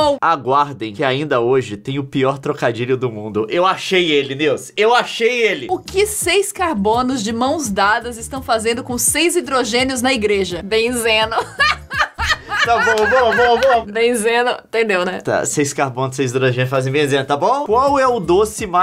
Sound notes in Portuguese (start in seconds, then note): 11.2 risadas